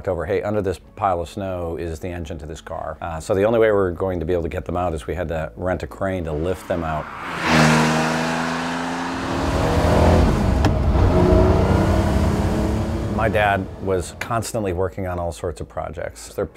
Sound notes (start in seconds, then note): 6.2 engine roars